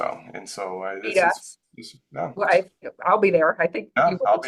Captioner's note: laughs